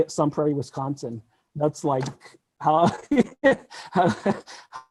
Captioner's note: laughs